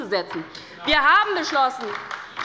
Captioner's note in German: Beifall bei der LINKEN